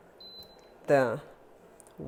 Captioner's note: burner beeping